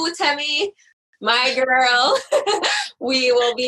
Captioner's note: laughs